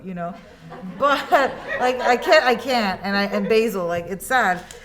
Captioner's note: students laugh